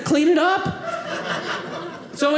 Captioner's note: audience laughing